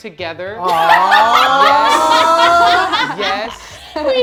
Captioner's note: laughter